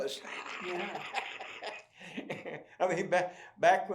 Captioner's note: laughs